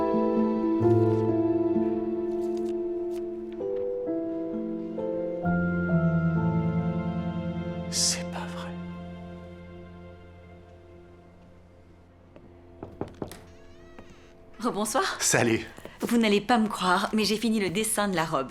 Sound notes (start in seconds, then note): 12.7 knock! Knock! Knock!